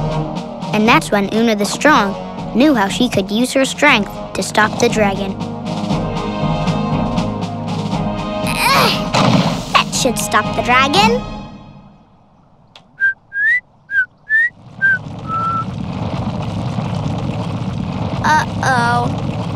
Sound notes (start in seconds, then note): 12.7 whistling